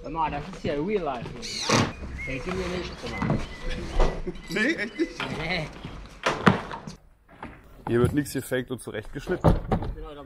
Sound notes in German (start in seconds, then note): 4.2 kichern; 5.1 klappern